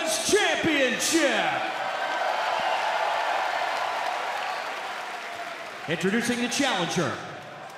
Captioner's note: cheers and applause